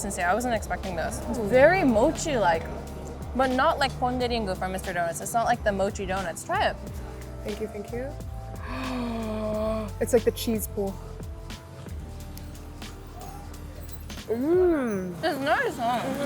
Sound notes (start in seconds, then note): 8.6 gasps; 11.3 upbeat music